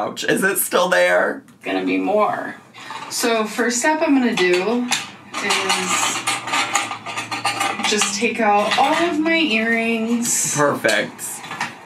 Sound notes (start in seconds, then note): 5.9 jewelry rattling loudly